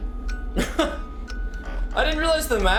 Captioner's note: laughs